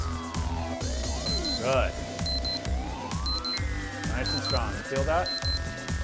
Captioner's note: beep sound